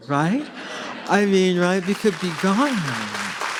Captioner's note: audience applauds